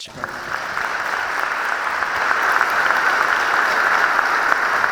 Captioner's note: audience applauding